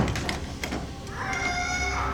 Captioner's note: kitty squawks